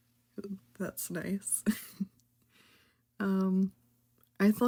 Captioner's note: haha